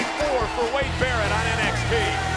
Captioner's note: bell ringing